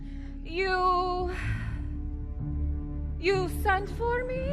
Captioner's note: sighs